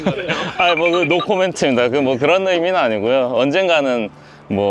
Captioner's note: laughs